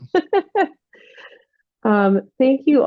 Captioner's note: laughs